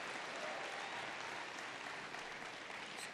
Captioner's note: applause